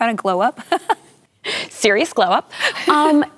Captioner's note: laughing